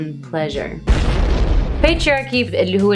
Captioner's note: bomb explodes; speaks Arabic